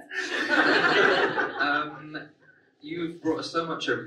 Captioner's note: audience laughs